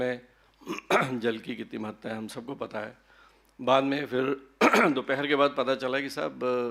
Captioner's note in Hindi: गला साफ़ करने की आवाज़